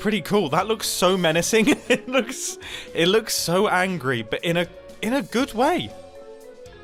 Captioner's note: chuckles